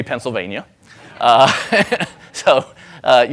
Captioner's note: laughing